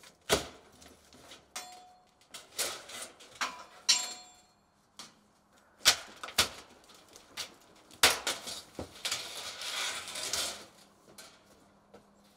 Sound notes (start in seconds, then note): 5.2 roofing cracking